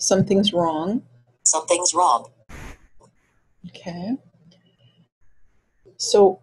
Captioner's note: voiceover